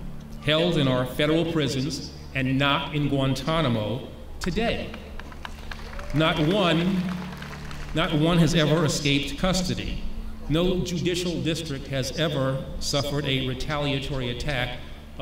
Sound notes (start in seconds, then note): 4.8 clapping